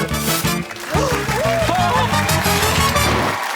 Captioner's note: gasps; cheers and applause